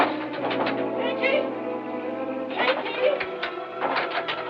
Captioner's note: rattling Continues